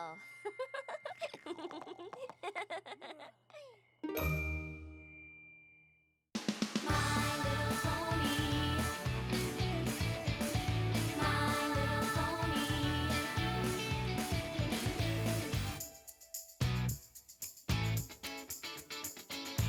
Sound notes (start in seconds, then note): 0.4 chuckles; 4.2 tink!